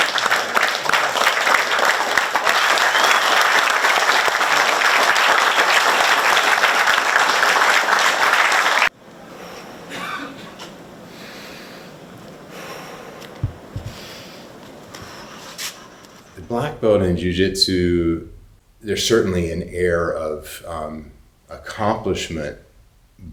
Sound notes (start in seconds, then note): 0.0 audience clapping; 9.6 breathes heavily